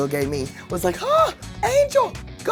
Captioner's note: gasps